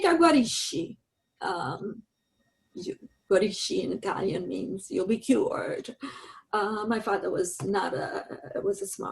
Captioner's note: in Italian